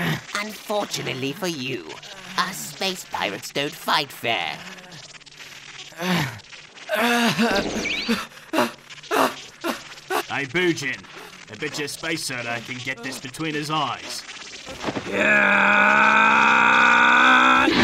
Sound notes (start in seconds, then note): 14.9 BIDO shouts